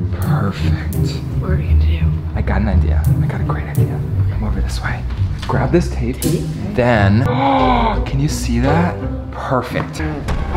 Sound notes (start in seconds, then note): 7.1 gasps